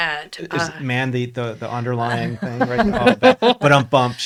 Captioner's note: laughs